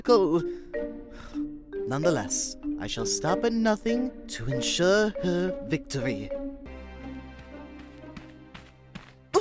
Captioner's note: sigh